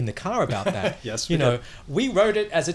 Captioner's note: laughs